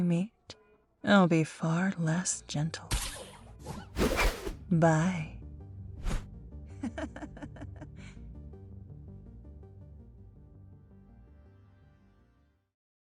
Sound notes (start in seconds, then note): 6.0 swooshing Sounds; 6.7 laughter